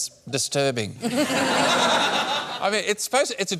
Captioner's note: laughter